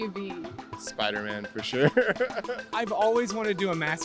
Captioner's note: laughs